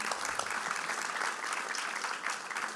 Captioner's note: applause